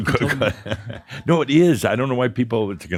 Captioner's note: chuckling